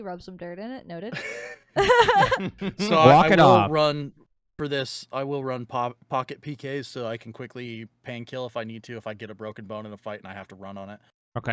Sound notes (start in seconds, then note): 1.8 laughing